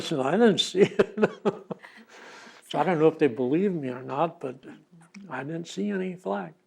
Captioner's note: laughs